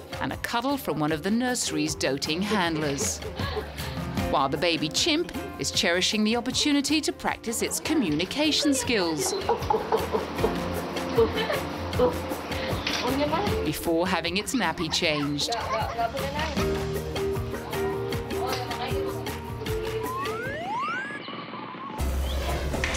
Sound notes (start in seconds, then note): 13.6 woman speaking in foreign language; 20.3 bright music; 21.6 upbeat music